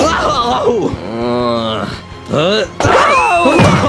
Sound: both grunt

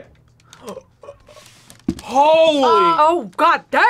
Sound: gasps

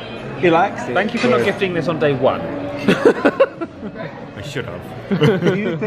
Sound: laughs

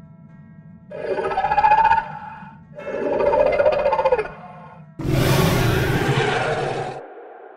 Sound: Wild Mange clicks and snarls

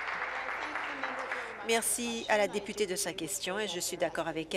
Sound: applause

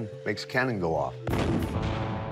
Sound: bang sound effect

